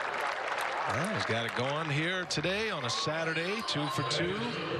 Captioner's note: applauding